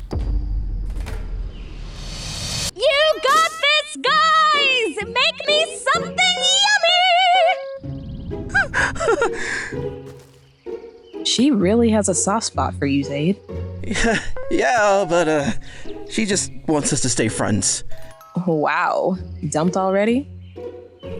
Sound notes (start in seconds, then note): 8.5 ZAID giggles; 13.8 chuckles